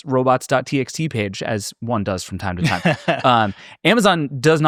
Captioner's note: laughing